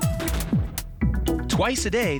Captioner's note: cannon booming